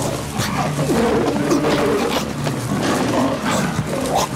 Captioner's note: Roaring